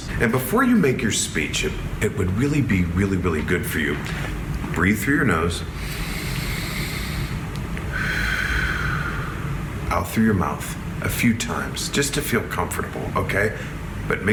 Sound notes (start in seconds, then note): 5.7 inhales deeply; 7.8 exhales deeply